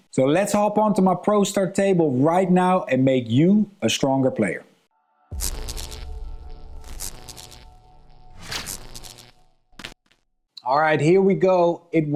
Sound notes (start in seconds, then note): 5.0 dramatic music; 5.5 text buzzing